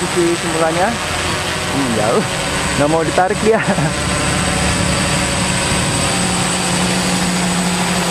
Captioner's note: chuckle